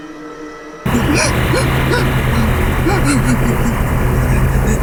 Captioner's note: woman sobbing